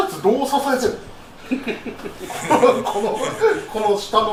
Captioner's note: laugh